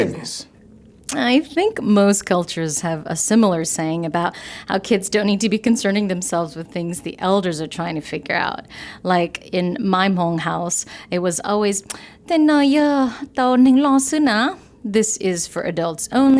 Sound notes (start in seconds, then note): 12.3 non-English language spoken